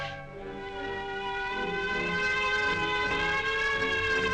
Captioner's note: sirens wailing